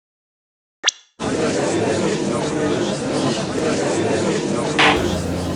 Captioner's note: gallery chattering; gavel slams!